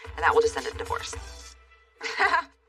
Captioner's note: laughs